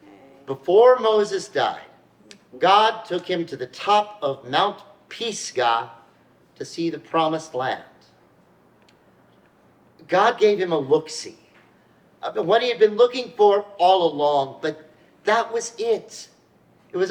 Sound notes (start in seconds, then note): none